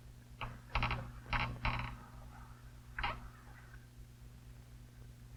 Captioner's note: bed squeaking